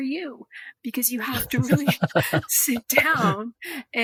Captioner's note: laughing